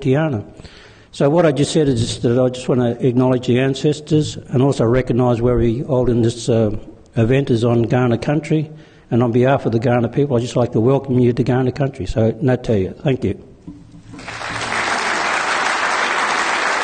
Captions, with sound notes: So what I just said is that I just wanna acknowledge the ancestors and also recognise this event is on Kaurna country, and on behalf of the Kaurna people, I'd just like to welcome you to Kaurna country. (speaking in foreign language) (clapping)